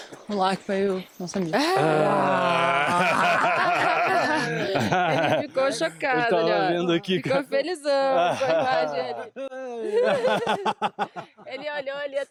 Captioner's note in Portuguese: risadas